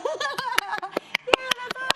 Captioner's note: clapping